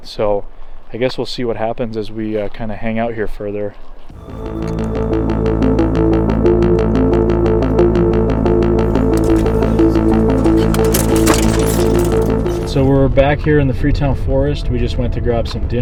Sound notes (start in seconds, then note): 4.1 intense music; 10.0 branches scrape car